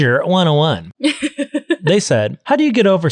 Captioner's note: laughing